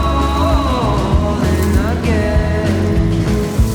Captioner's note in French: chant